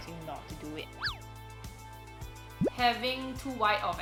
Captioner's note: low whistling